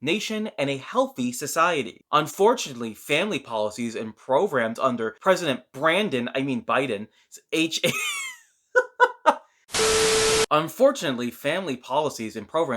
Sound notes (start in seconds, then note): 6.4 laughs at own joke; 9.7 Static